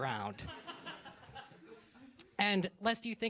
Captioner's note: laughter